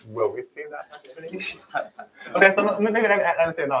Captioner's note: laughs